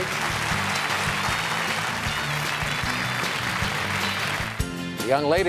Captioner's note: applause